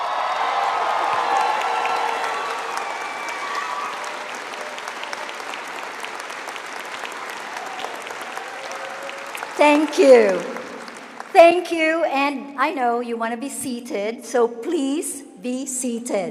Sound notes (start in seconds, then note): 3.6 cheering and applause